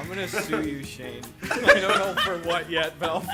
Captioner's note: group laughs